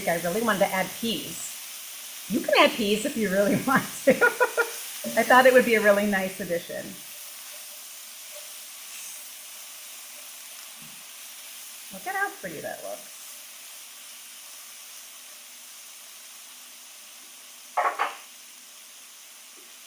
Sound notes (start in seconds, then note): 3.3 laughs; 7.1 food sizzling; 14.8 food sizzling